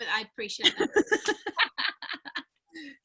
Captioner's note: laughing